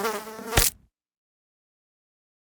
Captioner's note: fly buzzing; fly splatting